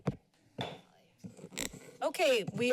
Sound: pounds gavel

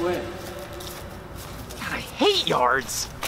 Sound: footsteps

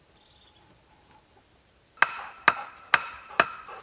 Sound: bang

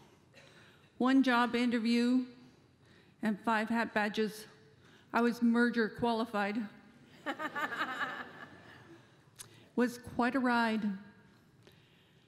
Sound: laughter

